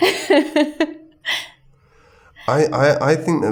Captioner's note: lauging